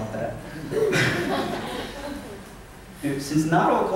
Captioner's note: laughter